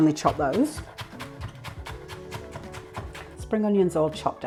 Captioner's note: rapid chopping